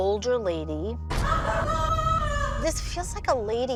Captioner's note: muffled screaming